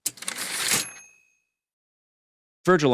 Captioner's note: typewriter ding